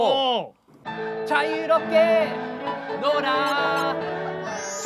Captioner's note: cracking up